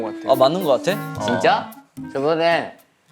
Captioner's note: haha